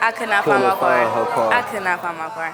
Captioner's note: audience exclaiming